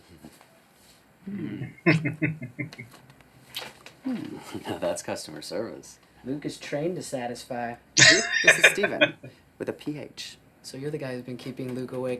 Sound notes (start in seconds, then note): 1.7 chuckling; 8.0 laughing